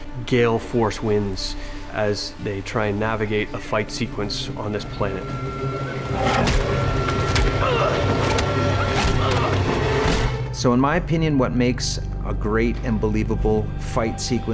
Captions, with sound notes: gale force winds as they try and navigate a fight sequence on this planet. [fists cracking] [both grunting] So, in my opinion, what makes a great and believable fight sequence